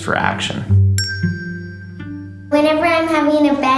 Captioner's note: chimes